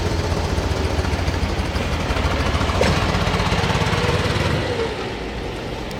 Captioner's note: loud engine running